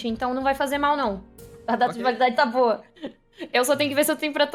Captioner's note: laughs